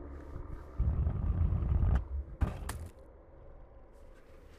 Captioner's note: light sphere clattering